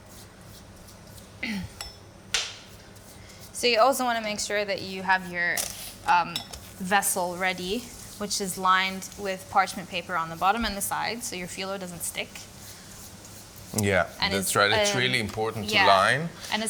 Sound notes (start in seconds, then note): 1.4 clears throat